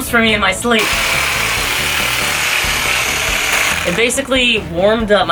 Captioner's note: whirrrrrrrrrr